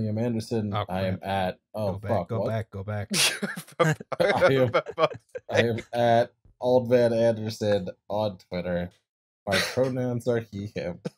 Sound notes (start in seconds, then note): 3.1 laughter